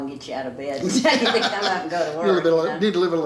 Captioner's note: laughs